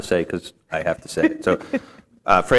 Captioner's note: laughter